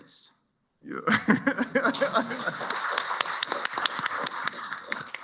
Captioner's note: laughter, applause